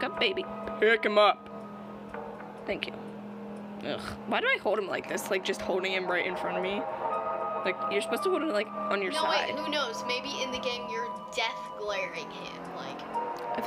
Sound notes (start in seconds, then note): none